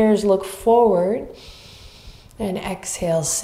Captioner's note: inhaling deeply